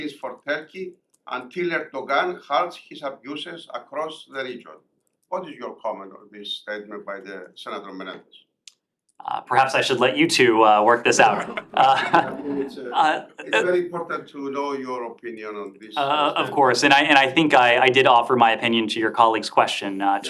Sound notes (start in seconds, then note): 11.4 laughter